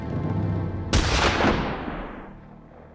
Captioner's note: gunshot